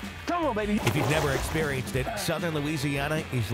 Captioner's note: water splashes